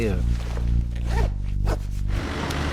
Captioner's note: jacket zips; engine droning